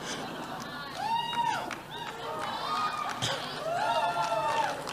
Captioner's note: cheering